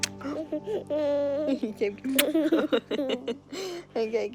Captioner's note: laughter